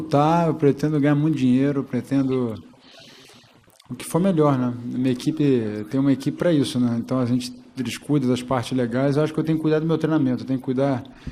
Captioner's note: speaking foreign language